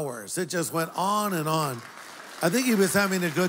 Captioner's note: applause